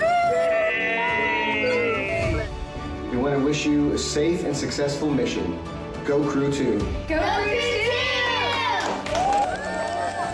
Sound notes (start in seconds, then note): 0.7 chanting "go crew two"; 7.6 cheers and Applause